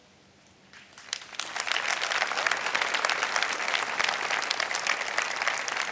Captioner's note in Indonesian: tepuk tangan